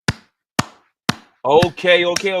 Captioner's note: claps